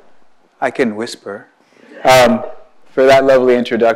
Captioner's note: audience laughs